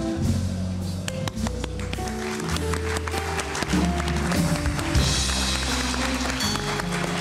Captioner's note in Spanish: Aplausos